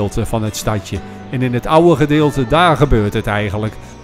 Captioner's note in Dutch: Voiceover